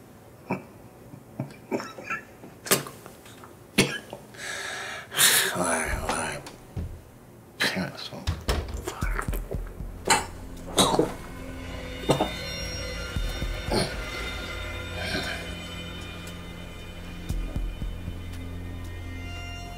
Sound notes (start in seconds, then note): 0.0 laughs; 3.8 coughing; 10.5 ominous music